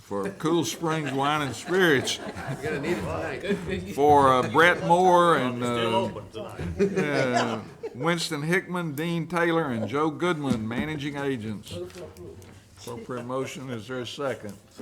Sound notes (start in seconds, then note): 6.9 all laughing